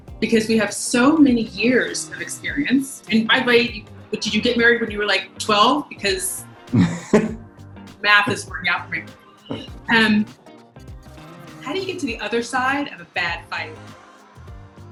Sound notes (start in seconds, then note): 6.7 laughing